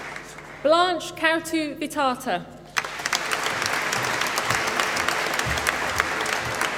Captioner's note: applause